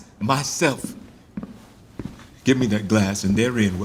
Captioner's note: approaching footsteps